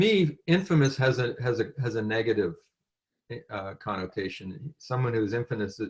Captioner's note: french